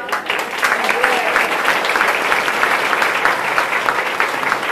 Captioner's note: audience applauding